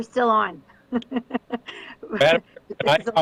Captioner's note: laughing